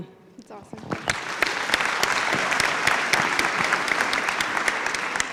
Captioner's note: applause